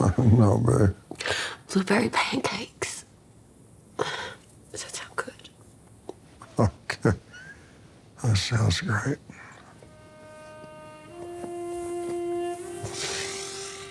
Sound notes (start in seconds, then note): 0.3 laughs; 4.1 sighs; 6.9 wincing; 9.8 somber music